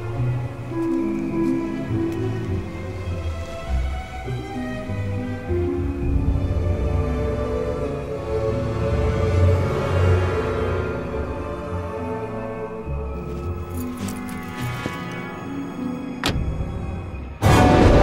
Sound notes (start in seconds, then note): 13.2 keys jingling; 16.2 car door slams; 17.5 intense music; 17.5 lightning strikes